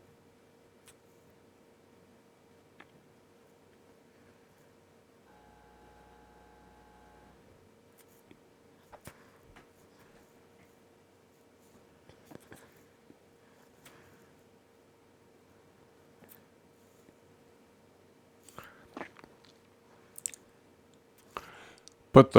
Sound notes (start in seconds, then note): 0.0 silence; 5.2 silence